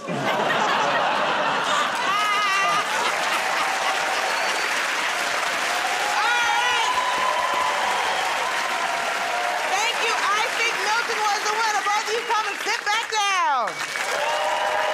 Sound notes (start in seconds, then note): 0.0 laughter; 3.2 cheers and applause